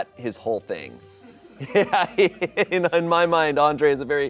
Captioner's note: laughs